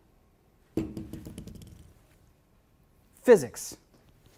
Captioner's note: balls bouncing